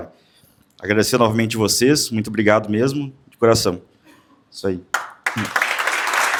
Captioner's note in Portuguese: aplausos